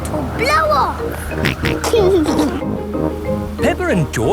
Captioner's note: snorts and giggles